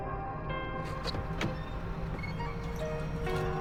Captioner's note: door clicks open, softly